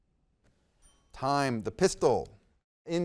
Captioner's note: timer chimes